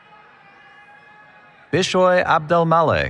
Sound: cheering

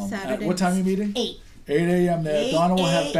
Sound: voiceover

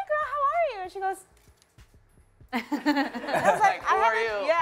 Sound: laughter

